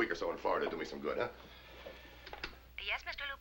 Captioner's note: voiceover